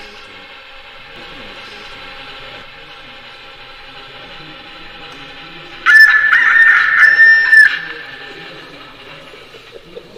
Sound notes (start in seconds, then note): 5.8 sound of a kikeriki of a rooster